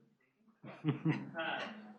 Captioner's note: laughter